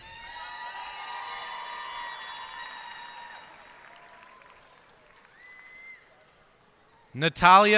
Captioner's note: cheers and applause